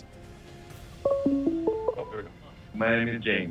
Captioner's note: phone ringing